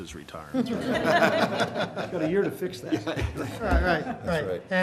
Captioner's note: laughter